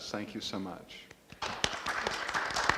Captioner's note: audience applauds